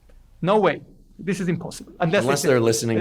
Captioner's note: laughs